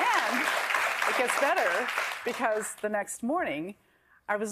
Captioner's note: applause